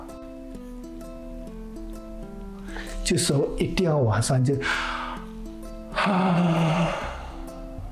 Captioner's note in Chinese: 呵氣